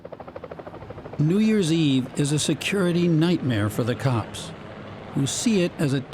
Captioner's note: voice-over